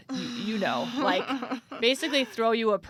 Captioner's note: laughs